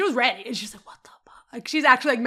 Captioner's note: whispering